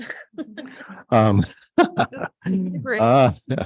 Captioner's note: people laughing